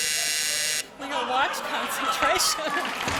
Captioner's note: buzz; laughter